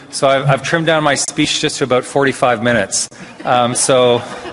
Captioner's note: laughter